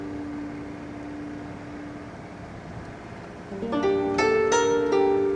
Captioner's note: gentle music; vehicle engine whirring